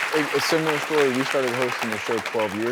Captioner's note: audience clapping